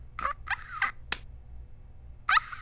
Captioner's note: squeaks